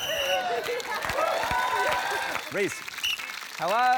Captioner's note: blows whistle; cheering; blows whistle